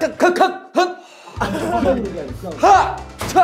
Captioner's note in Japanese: アハハ